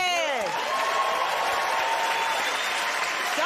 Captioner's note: cheers and applause